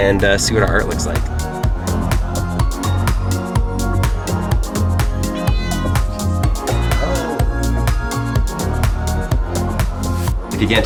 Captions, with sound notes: and see what our art looks like. (upbeat music) (cat meowing) Hello. (upbeat music)